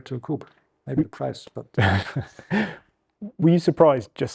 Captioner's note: chuckles